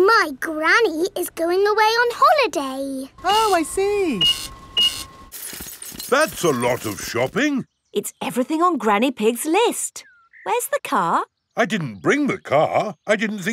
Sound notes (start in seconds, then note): 3.2 cash register beeping